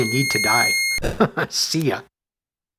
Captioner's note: chuckles